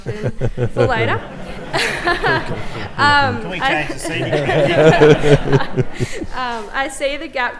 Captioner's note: laughter